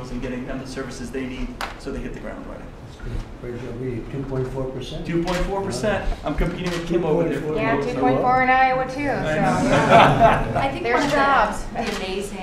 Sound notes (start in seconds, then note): 9.4 laughter